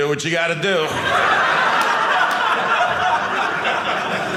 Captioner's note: audience laughing